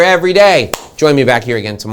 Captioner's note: clapping hands